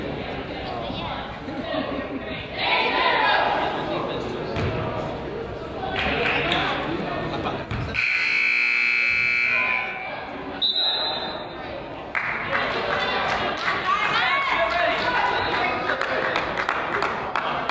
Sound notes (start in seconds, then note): 3.1 coach yells; 7.9 buzzer honks; 10.6 whistle blows; 12.1 crowd applauds